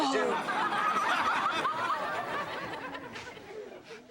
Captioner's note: audience laughs